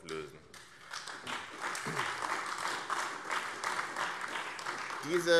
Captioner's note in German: Beifall AfD